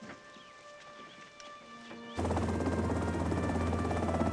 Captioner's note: helicopter engine humming